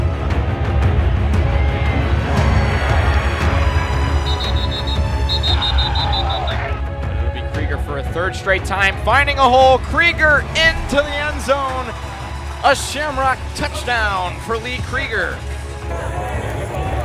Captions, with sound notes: (Crowd cheers) (Whistles blowing) A Shamrock touchdown for Lee Krieger. finding a hole, Krieger into the end zone! A Shamrock touchdown for Lee Krueger.